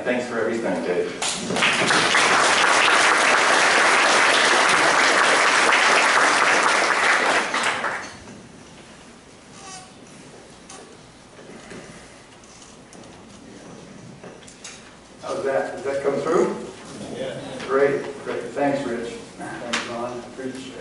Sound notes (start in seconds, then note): 4.8 applause; 7.3 microphone adjustments